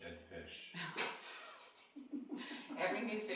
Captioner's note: laughing